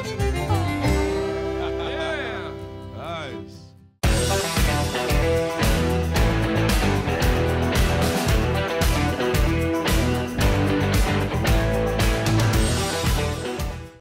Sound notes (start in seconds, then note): 1.0 laughing